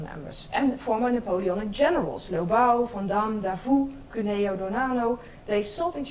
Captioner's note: speaks in foreign language